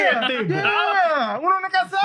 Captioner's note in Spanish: Hablando en idioma extranjero